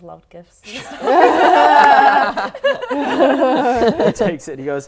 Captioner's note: laughing